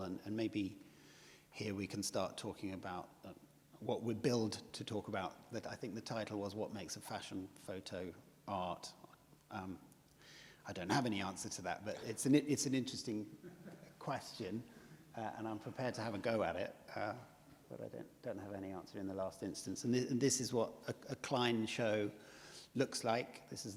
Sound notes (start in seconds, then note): 10.6 chuckles